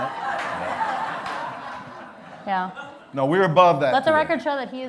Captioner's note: laughter